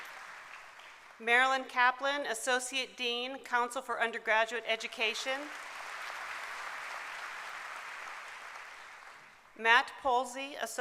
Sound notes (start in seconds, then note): 6.5 applause